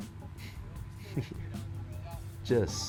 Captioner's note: chuckling